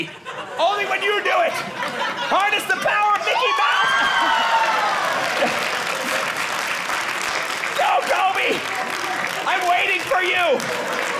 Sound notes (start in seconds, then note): 2.3 audience cheering